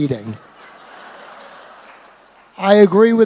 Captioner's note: laughter